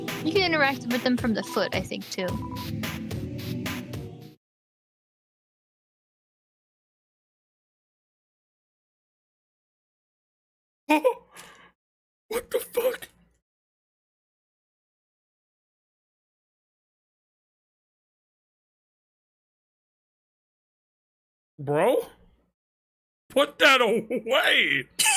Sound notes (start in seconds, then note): 3.9 music suddenly fades; 11.3 gasps